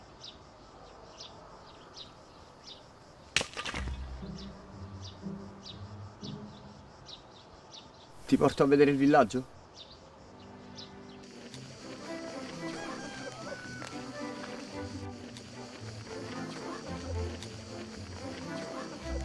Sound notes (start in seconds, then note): 11.7 cock-a-doodle-do of roosters; 11.8 upbeat music playing